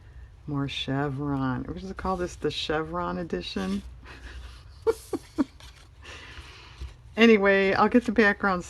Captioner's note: laughs